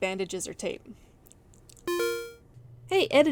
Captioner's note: beep-beep synth noise